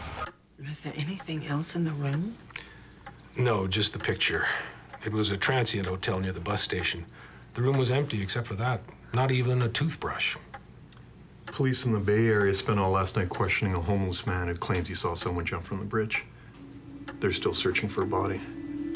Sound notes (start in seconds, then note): none